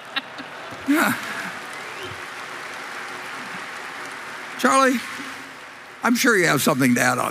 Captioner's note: Applause; 掌聲